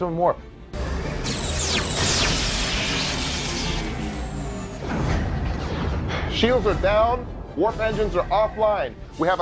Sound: explosion

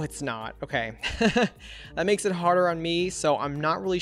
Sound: laughs

